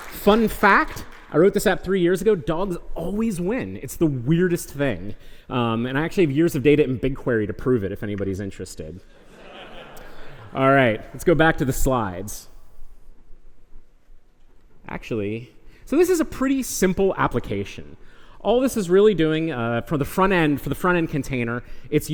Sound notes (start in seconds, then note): 9.2 laughter